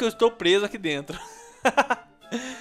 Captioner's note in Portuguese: risos